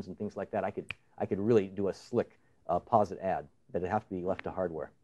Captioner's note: snaps fingers